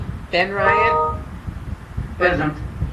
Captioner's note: comp notification bell rings